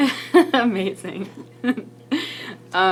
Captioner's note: laughs